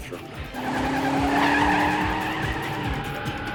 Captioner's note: tires screeching